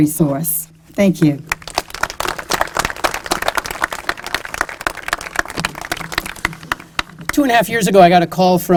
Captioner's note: applause